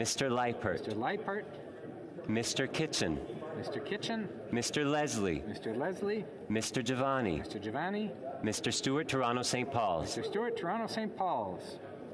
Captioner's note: calling of recorded vote